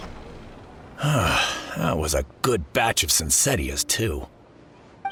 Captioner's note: sigh